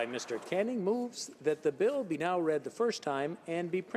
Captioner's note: applause